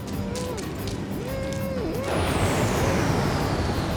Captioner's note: muffled moaning